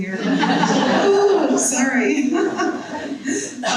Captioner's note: person laughing